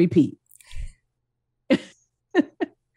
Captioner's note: chuckle